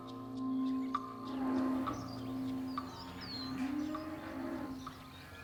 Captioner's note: cows bellowing